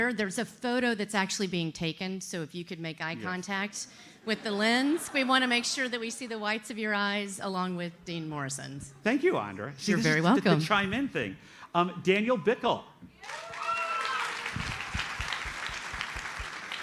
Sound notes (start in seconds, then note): 13.2 audience applauds